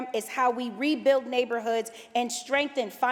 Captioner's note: none